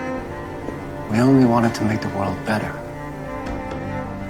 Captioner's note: voiceover